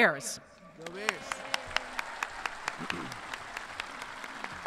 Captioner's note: everyone cheering